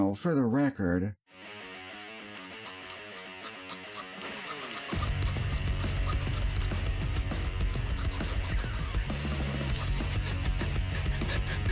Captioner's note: sawing sounds